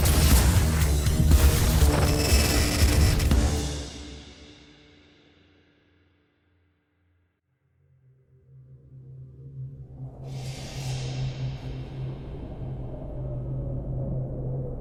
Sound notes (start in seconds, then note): 8.4 eerie music; 9.1 wind whistling